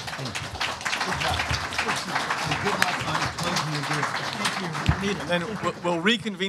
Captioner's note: applause